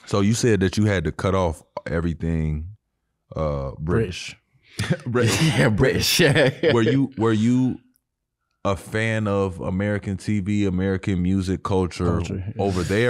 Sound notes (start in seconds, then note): 7.3 laughs